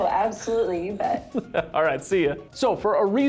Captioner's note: laughing